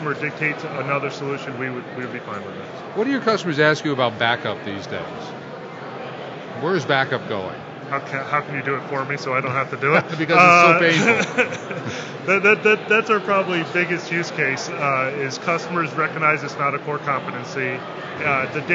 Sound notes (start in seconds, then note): 9.8 laughing